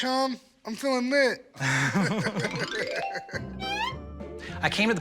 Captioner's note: both laugh